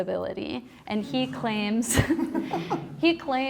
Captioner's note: laughs